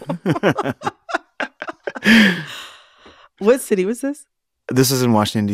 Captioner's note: laughter